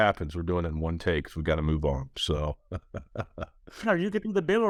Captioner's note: laughs